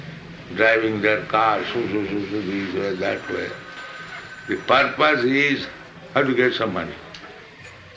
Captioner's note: makes noise of cars